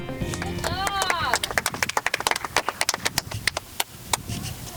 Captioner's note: applause